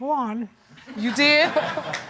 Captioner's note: audience laughing